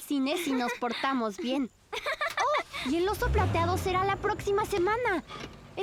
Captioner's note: giggling